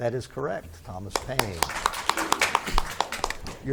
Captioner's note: spectators clap